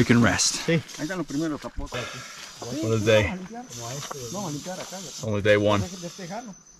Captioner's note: speaking in foreign language